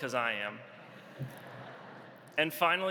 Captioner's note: audience laughs